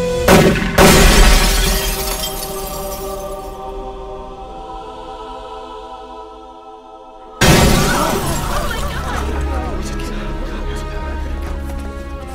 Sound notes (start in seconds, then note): 0.2 guns firing; 2.9 suspenseful music; 7.4 man crashing; 7.8 crowd gasping